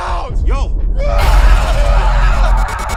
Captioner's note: screams